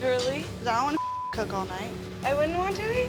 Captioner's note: beep